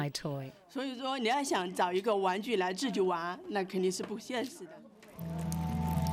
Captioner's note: speaking in foreign language